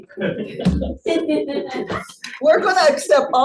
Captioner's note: audience laughing